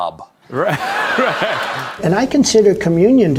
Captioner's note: audience Laughter